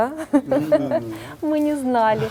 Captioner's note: laugh